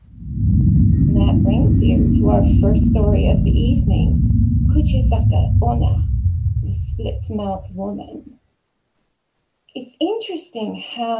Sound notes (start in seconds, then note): 7.1 spooky transition sound effect